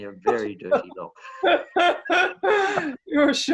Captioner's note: laughing